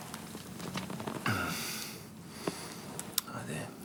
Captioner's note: John groans